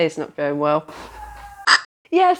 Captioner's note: shouting